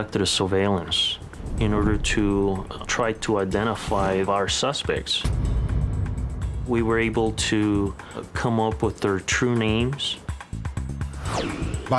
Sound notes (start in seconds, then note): none